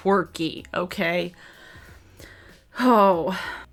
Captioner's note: sighs